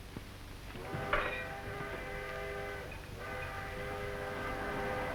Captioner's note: train engine roaring